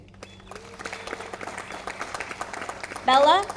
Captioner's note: audience applauding